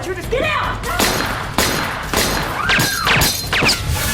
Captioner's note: gun firing